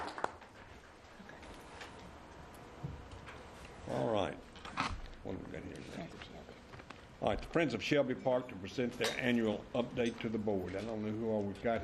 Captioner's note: applause